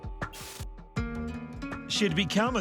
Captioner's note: curious music continues; screen crackling